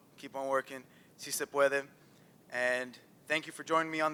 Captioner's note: non-english speech